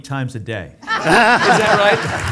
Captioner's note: audience laughing